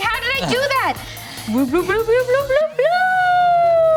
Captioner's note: ascending blooping